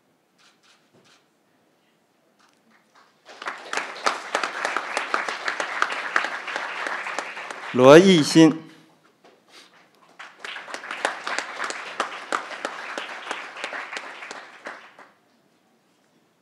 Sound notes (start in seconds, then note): 2.7 crowd applauding; 9.8 crowd applauding